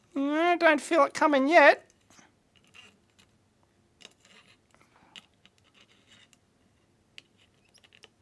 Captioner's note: sound of soldering iron scraping against pins